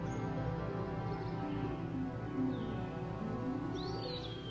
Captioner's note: birds chirping